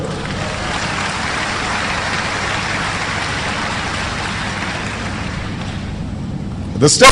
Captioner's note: applause